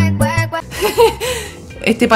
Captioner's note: laughs